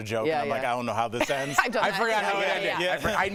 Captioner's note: laughter